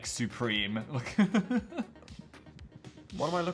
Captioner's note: Phil laughs